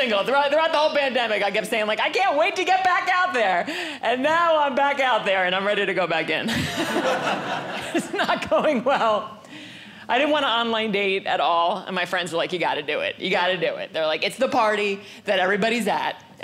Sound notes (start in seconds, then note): 6.5 audience laughing